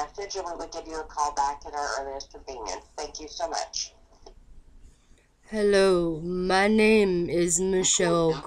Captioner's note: speaking in a horrid tone and accent